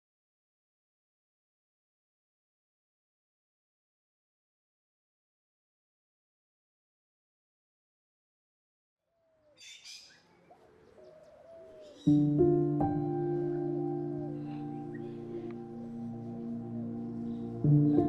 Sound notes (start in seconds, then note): 9.2 birds chirping; 10.2 somber music